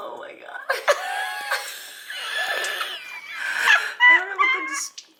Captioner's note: laughing